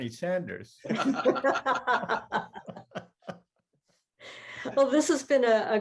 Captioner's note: laughter